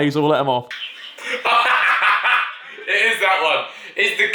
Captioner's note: laughing loudly